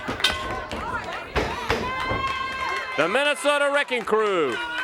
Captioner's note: bell rings